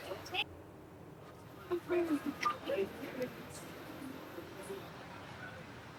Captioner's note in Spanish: charla confusa